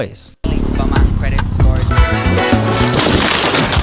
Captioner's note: motorbike engine revving; bright upbeat music; car crushing